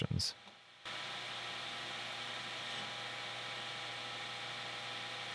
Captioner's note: machine whirring